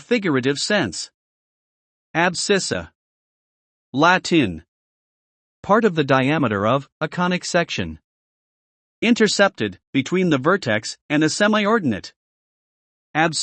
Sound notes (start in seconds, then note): 3.3 Latin